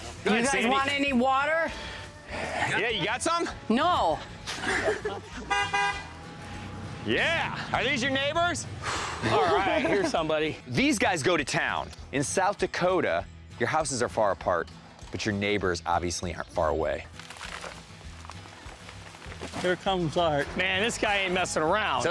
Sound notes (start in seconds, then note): 5.4 car horn